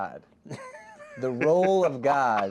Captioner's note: laughs